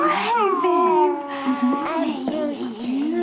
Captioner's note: molly babbling